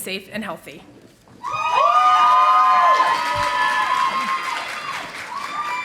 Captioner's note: audience applauding